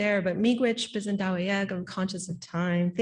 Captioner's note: speaking Anishinaabemowin